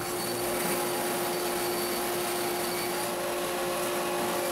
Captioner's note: machine whirs